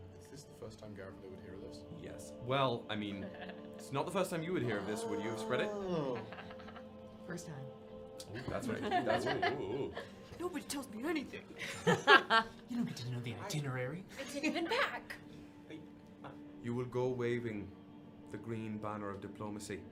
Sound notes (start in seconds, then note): 8.2 cast laughing